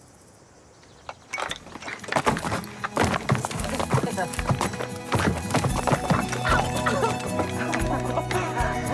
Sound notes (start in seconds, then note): 3.8 laughing